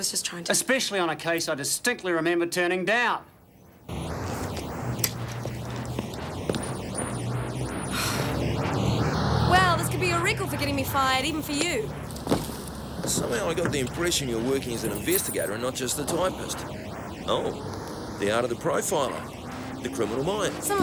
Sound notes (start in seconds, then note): 7.1 Jodie sighs